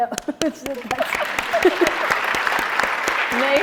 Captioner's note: applauding